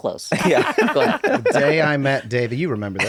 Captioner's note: laughter